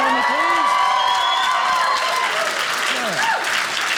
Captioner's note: audience cheering loudly